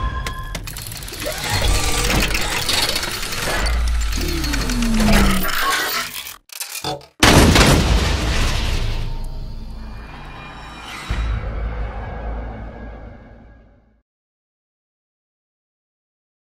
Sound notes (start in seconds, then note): 0.1 mechanical sounds; 7.2 explosion; 7.2 gun shots; 9.0 eerie music